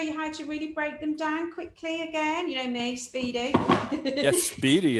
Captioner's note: giggles